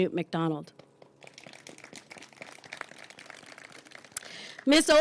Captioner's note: applause